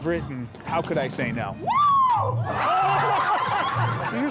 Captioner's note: screams